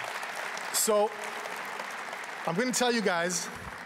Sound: applause

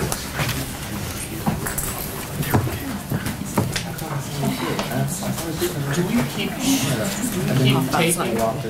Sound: background conversation

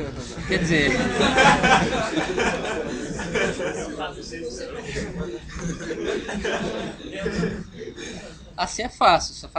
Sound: laughs

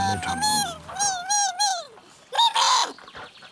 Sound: revolutionary Worm Noises

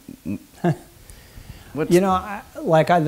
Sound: chuckles

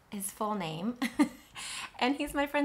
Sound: laughs

